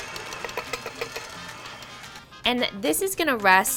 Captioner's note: cup banging on bowl